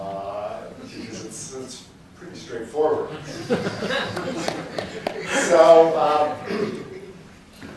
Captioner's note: laughter